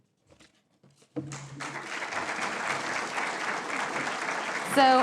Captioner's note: applause